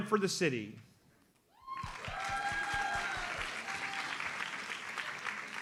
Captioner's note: audience applauds